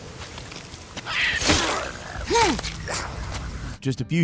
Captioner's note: rain pattering; both grunting; blade slashing